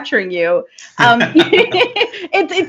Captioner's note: both laughing